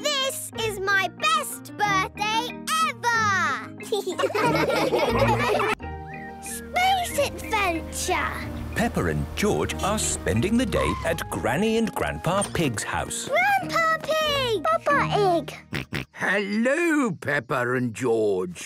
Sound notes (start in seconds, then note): 3.8 laughing